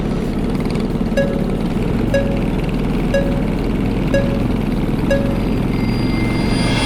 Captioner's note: beeping; engine revving